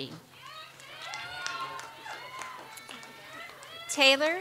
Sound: audience applauds

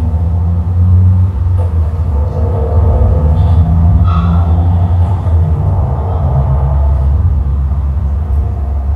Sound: low metallic tone increases in pitch

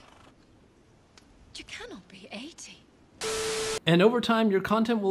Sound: static

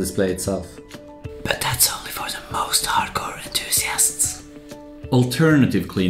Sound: whispers

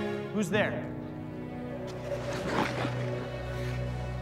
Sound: rumbling

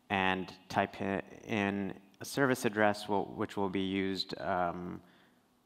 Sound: none

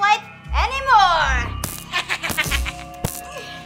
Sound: laughing

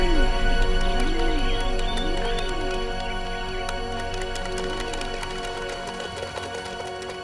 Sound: ants clap

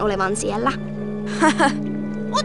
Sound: nerveous laugh?

